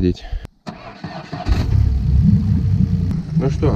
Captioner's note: boat engine starts